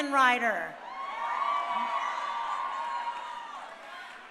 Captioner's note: crowd cheering